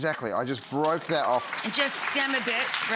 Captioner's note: audience applauding